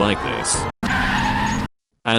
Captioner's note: car stopped drifting noises